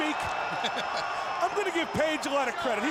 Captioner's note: laughs